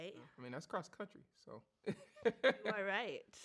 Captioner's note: laughs